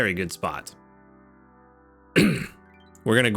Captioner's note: clears throat